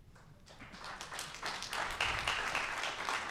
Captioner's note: applause